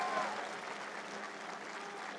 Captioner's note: cheers and applause